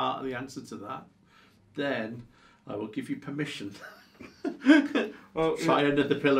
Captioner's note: laughs